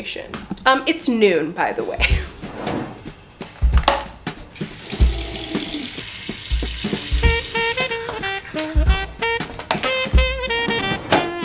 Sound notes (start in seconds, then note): 4.6 water rushing; 7.5 upbeat jazzy trumpet music